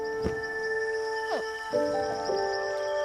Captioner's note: hatchling grunts